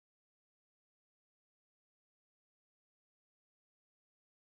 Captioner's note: none